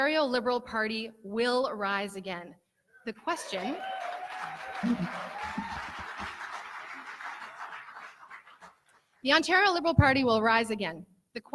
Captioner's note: cheering